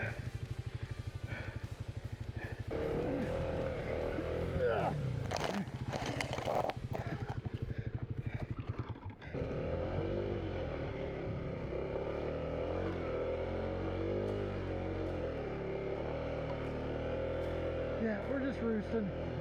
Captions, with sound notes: [motor running] Yeah, we're just roosting.